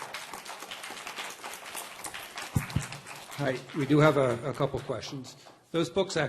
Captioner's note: applause